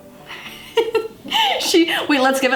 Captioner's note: laughs